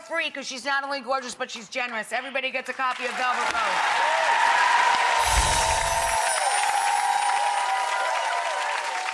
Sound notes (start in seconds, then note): 2.9 audience applauding; 5.2 bells chiming